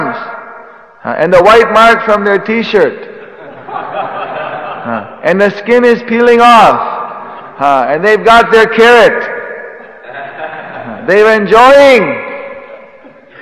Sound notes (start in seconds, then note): 3.2 laughter